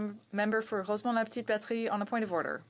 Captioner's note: speaking French